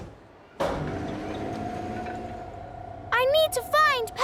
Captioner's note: lift moving